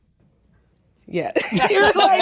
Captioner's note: all laughing